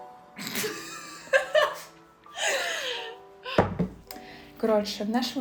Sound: laughing

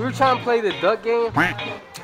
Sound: quack

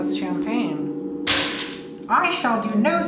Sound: bottle clatters

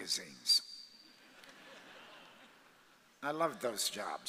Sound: audience laughs

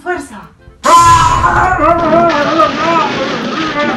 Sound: Churraska yells

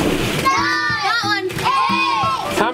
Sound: children counting down from 10

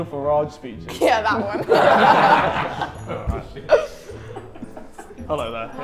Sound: everyone laughs

